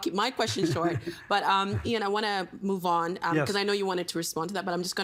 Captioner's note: laughter